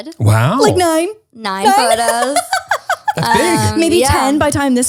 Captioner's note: laughs